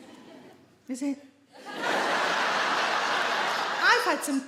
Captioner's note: audience laugh